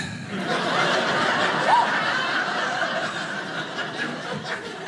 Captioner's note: audience laughing